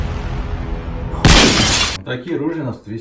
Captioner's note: shot